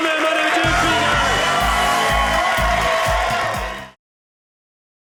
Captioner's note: audience cheering